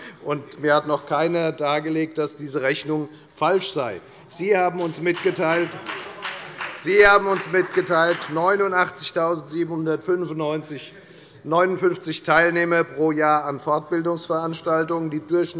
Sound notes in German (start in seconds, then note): 4.7 Beifall bei der FDP